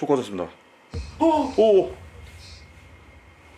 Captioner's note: The sound from the EMF device